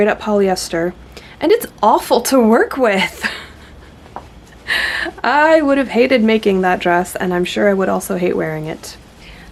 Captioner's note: laughs